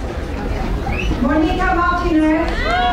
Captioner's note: woman speaking faintly; crowd cheering